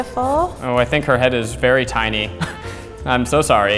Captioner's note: laughs